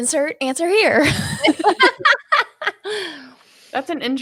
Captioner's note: laughing